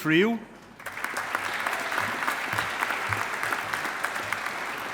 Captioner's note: audience applauding